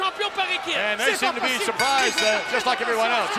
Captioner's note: speaking French